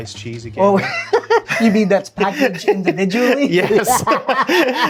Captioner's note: laughing